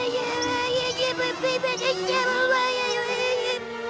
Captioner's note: Panics in Derp-lish